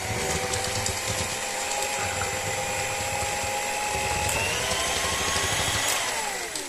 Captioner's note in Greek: Ήχος μίξερ